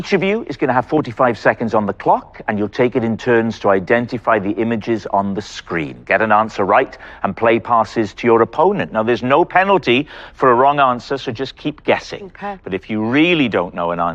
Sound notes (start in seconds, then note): none